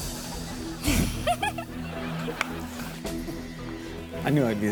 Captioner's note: giggles